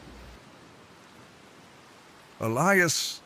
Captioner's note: waves splashing